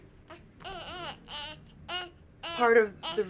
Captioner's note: baby gurgles